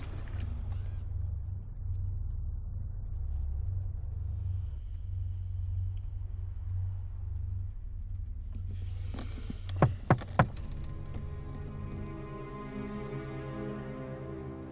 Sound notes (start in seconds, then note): 0.0 keys jangling; 5.4 low droning music; 9.8 window knocks; 11.6 suspenseful music